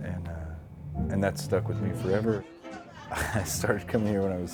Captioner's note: laughs